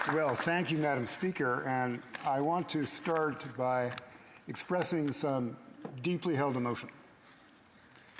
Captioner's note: applause